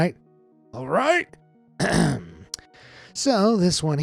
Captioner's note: clears throat